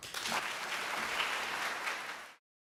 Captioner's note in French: Applaudissements